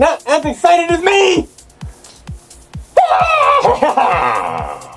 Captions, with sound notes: NOT AS EXCITED AS ME!!! [Reptile Excitedly Screams]